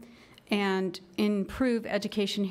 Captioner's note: none